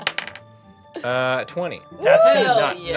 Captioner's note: dice clacking; whooping